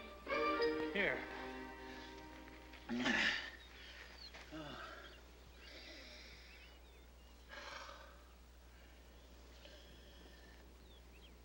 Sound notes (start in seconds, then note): 2.8 sighs; 5.2 sniffs and sighs